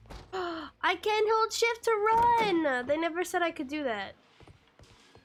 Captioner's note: gasp